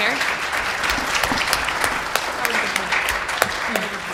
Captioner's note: applause